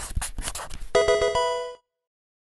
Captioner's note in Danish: electronisk video game chime